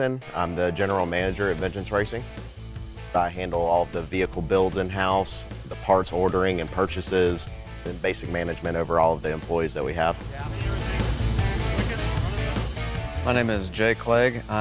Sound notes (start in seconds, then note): 10.6 speaking faintly